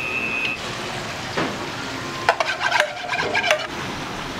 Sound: foam

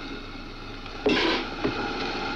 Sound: tire clanks

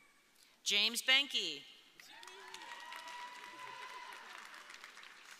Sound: audience cheering

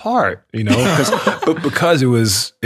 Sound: all laughing

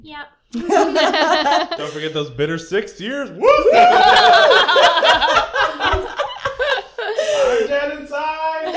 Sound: laughter, cheering

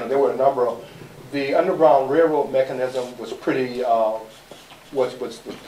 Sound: none

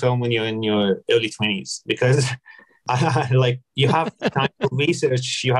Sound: laughs

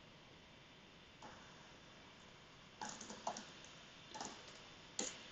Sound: computer keyboard clicking

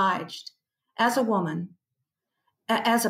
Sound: none

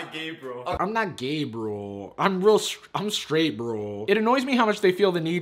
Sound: mocking

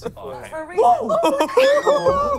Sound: laughing; yelling

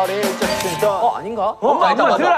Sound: ding

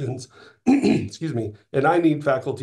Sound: coughing

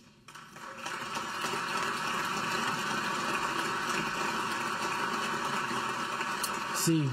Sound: applause

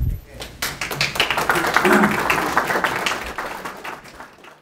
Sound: crowd applauds

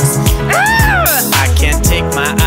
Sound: girl groans

